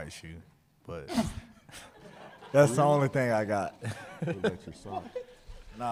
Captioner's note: laughter